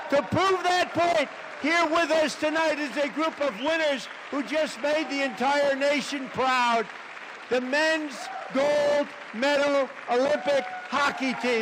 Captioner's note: applause